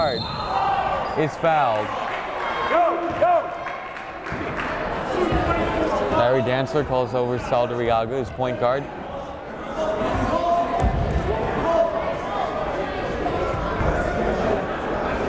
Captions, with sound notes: Stephon Medard is fouled. (yelling) Larry Dantzler calls over Saldarriaga, his point guard. (chattering)